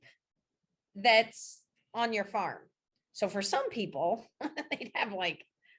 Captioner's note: chuckles